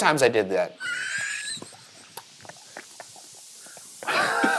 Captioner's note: laughs; gobbles; laughs